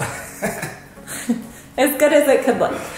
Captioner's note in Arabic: يضحك